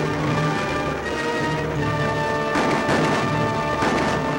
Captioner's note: none